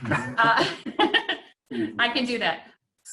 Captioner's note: laughing